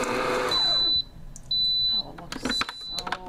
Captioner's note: stand mixer beeping